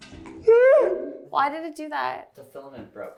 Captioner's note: distorted shrieking